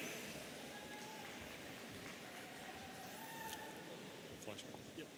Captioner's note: audience applauding and cheering